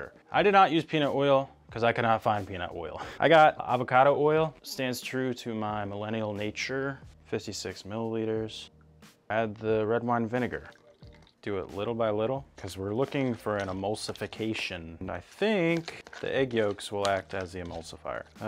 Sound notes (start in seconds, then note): none